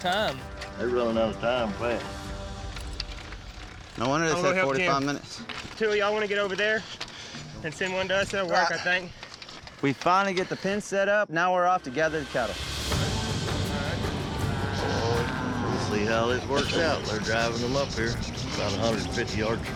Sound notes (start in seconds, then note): 14.4 cattle mooing